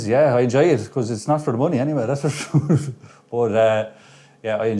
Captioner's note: laughs